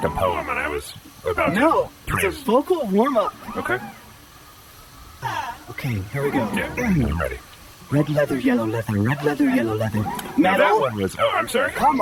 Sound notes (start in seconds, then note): 5.2 exhale